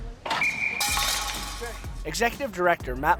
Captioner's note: whistle; puck rattling